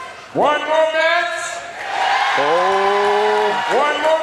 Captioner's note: audience cheers